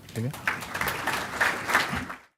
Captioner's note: applause